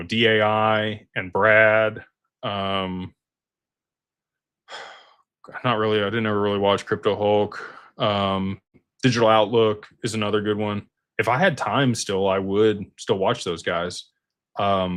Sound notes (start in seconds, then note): 4.6 sighs and gasps